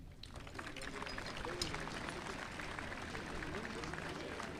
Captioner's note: audience applauding